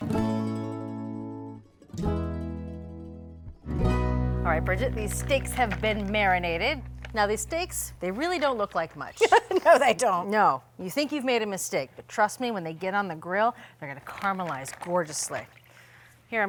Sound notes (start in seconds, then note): 0.0 light music; 9.2 laughing